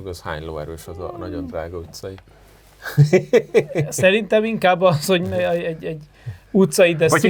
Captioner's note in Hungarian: nevetés